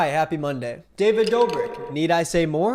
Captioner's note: ice clinks